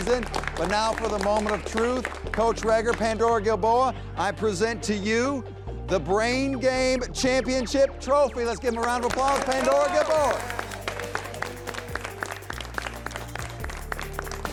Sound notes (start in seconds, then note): 8.9 people applauding; 12.6 upbeat music continues